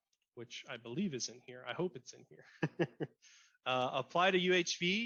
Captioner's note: laughs